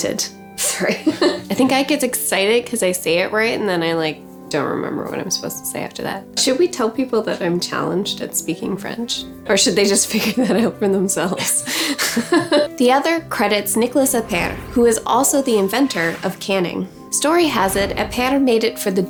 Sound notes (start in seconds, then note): 12.0 laughs